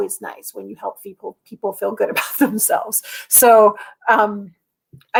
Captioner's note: laughter